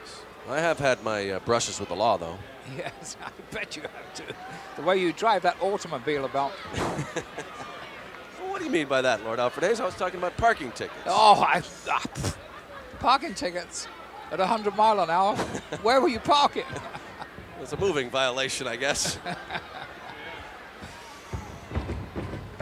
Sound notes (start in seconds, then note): 5.4 laugh; 14.3 laugh